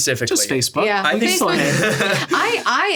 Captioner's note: laughs